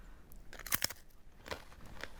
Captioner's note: crunching